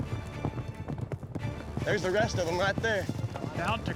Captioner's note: hoof beats